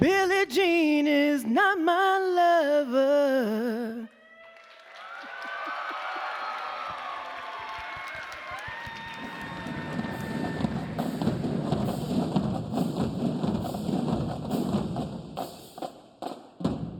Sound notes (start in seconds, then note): 4.2 audience cheering; 10.6 upbeat band music